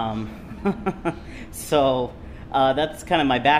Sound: laughs

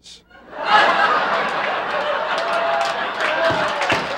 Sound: audience laughing

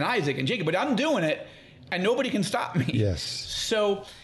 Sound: laughing

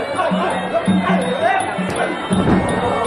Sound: yelling

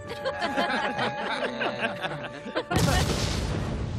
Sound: all laughing; explosion

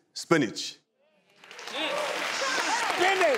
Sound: clapping

